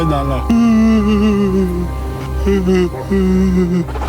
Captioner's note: sobbing